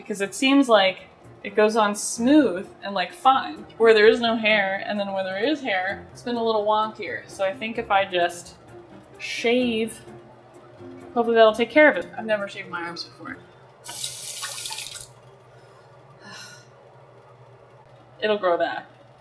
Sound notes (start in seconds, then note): 16.2 sighs